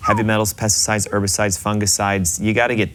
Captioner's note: whistling